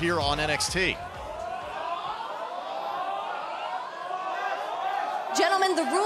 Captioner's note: crowd cheering